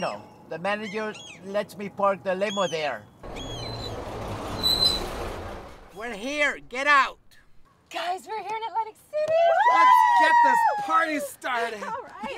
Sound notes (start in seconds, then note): 3.2 brakes squeal